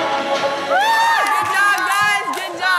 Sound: all cheering

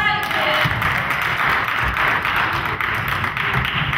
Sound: crowd claps

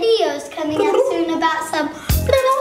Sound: humming

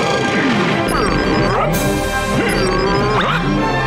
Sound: grunting; grunting

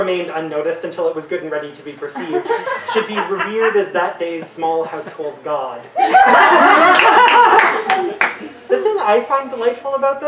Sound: audience laughter

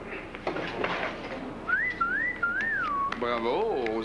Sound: Sifflet

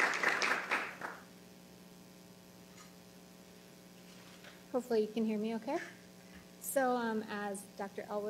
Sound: applause

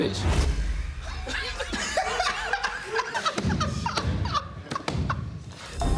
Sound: all laughing

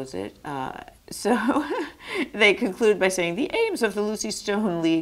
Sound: laughs

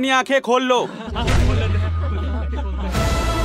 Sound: chattering

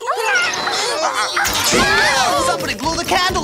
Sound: straining

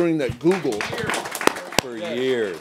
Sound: applause

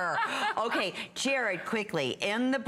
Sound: laughter

